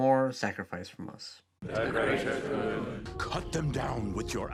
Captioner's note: all chanting